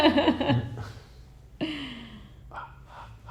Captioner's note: laughing